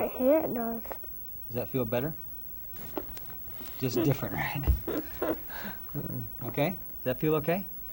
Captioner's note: chuckles